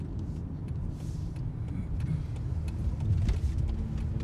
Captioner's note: clears throat